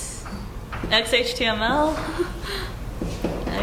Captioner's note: laugh